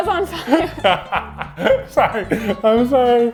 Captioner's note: laughs